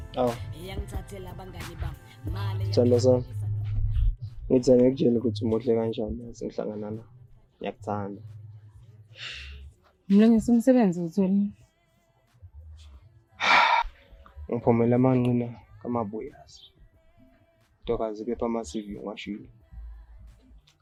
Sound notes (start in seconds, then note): 13.4 sighing